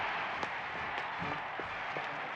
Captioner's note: crowd cheering